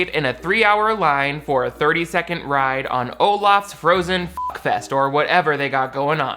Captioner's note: beep